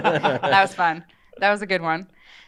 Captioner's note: maniacal chuckle